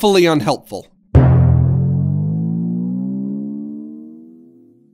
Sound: goofy sound effect

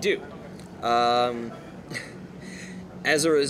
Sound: laughs

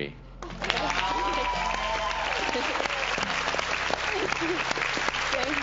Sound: audience cheers

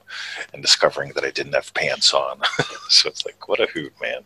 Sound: chuckles

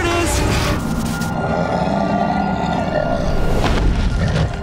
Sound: Appa grunting

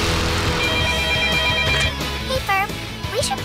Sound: telephone rings

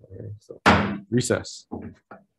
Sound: gavel banging

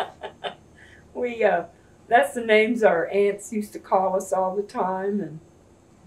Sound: laughs

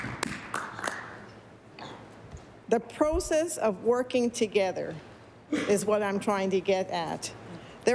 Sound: applause

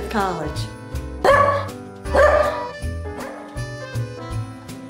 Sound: dog barking

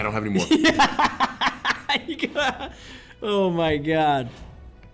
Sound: laugh

